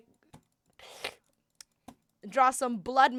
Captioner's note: sucks in a breath